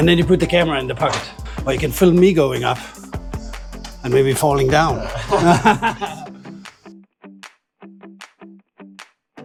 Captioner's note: laughter